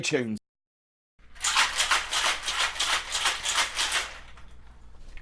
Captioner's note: ice shaking